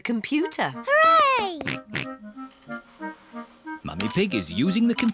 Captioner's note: snorts